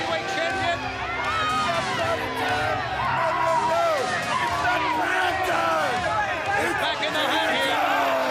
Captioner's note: crowd cheering